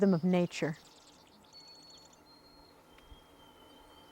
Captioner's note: birds chirping